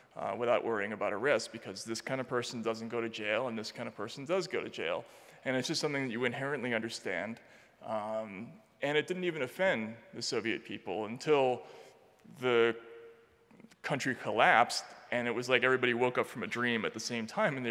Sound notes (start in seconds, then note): none